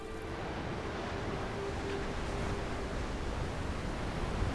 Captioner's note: waves crashing